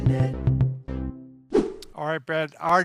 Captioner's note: scene swooshes